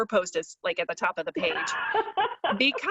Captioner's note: laughs